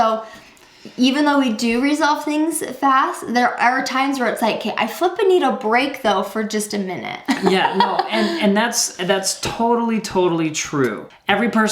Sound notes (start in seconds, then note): 7.3 laughs